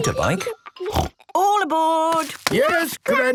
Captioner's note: snort